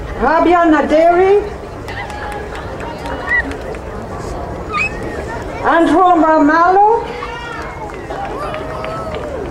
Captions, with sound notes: Rabiana Derry. (crowd applauding) Anton Melmallo.